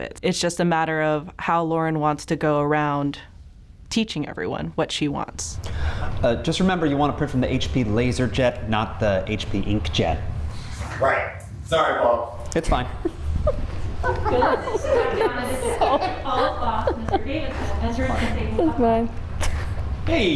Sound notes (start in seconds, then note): 12.7 cast and crew laughing